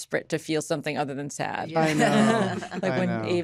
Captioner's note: laughter